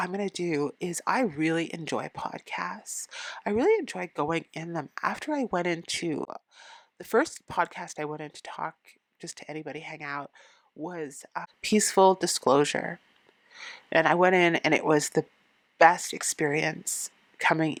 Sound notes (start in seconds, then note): none